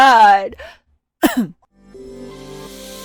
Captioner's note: ahem